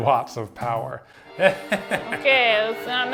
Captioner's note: evil laugh